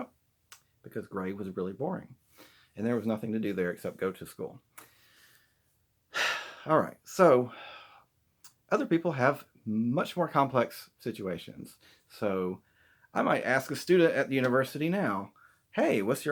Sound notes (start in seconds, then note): 6.1 sigh